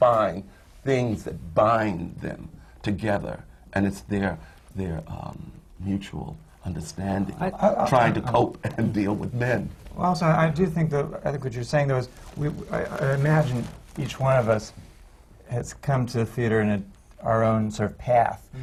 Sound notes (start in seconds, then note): 7.1 laughs